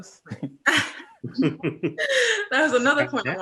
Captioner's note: laughs